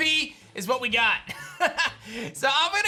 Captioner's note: laughs